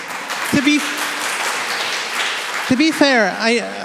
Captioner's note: applause